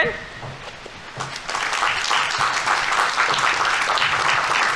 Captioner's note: audience applauding